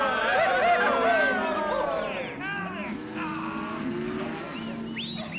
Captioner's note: herding cattle - cows mooing